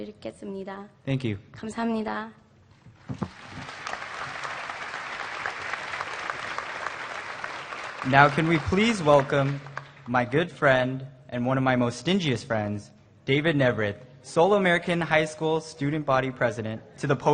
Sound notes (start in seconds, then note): 3.1 applause